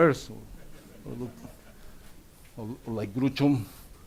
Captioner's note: audience laughs